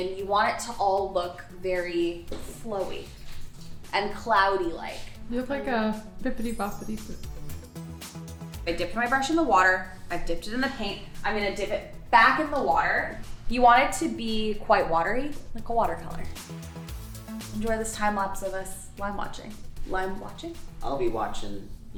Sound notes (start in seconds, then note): 6.3 brush sparkling